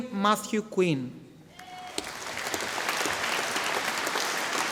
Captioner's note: audience applauding